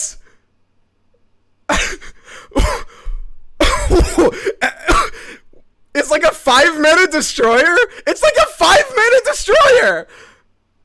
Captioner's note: laughter in disbelief